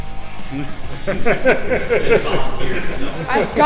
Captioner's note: laughs